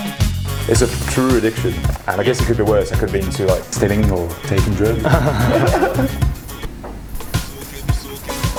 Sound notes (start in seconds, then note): 4.6 laughter